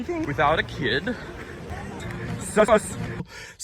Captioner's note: inhaling compilation